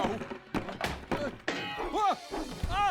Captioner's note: clattering